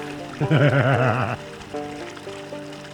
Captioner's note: laughs